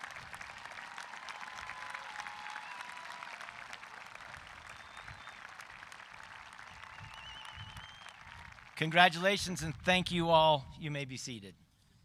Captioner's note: cheering and applause